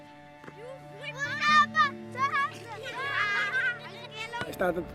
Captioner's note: children speaking and laughing